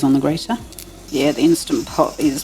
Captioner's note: pressure cooker hissing